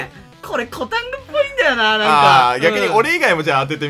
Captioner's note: laugh